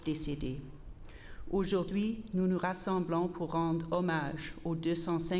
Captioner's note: repeated in French